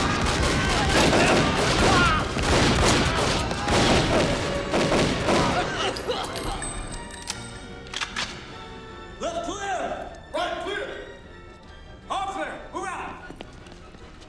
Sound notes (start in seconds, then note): 7.5 guns clicking